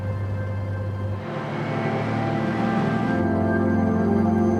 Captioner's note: engine humming